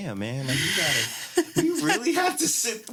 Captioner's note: laughs